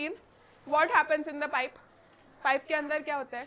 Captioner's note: speaks other language